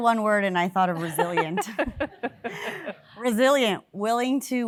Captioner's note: laugh